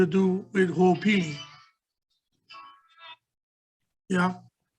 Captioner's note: phone ringing